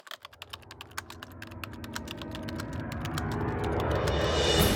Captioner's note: typewriter sounds